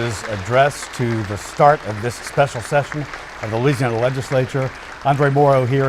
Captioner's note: applause